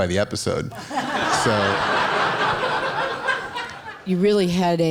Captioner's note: laughing